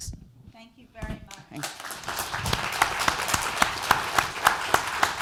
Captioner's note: applause